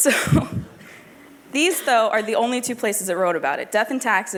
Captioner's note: laughter